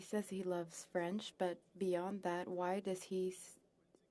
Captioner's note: speaking French